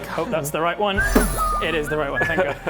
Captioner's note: boof